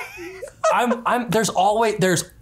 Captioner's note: laughs